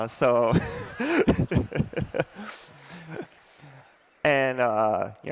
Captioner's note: laughs